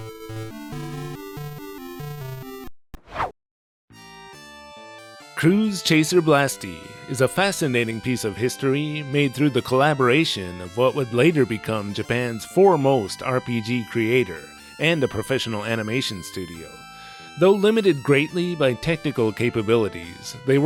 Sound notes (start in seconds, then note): 3.0 whoosh